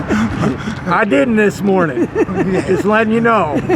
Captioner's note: laughs